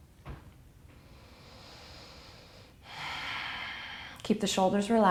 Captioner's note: deep breath